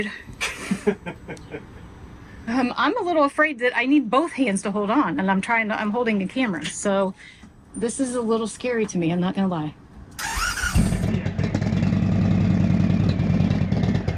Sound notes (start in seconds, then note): 0.3 laughing; 10.2 engine starting